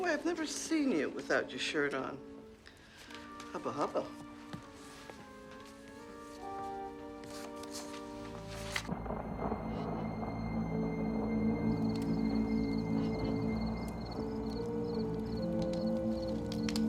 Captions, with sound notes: By the way, I've never seen you without your shirt on. Hubba hubba. (thunder claps) (suspenseful orchestral music)